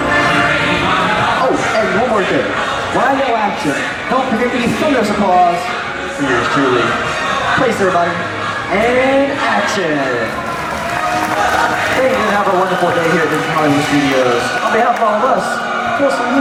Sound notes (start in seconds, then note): 10.2 applauses